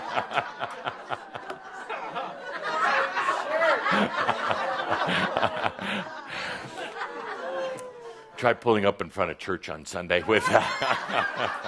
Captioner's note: more laughter